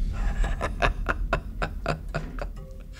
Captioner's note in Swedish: skratt